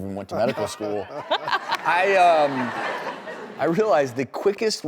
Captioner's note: audience laughing